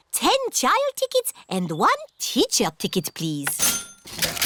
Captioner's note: cash register dings